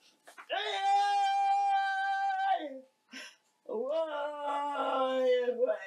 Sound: wailing

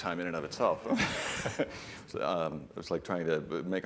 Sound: laughter

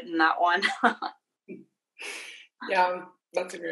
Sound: laughing loudly

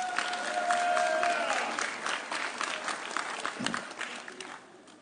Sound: audience cheering

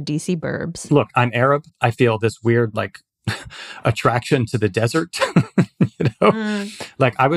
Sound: laughs

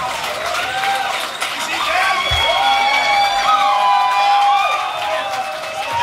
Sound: cheering

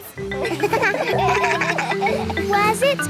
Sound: kids laugh

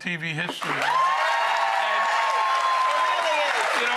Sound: cheers and applause

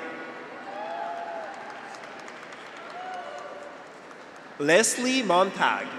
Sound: graduates cheer; audience applauds

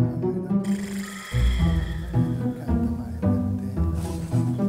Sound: snoring

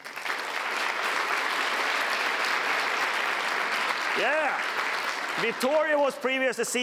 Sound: applause

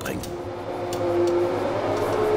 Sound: whirring

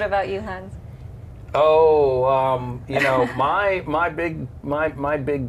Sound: laughter

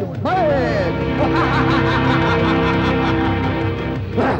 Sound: laughs

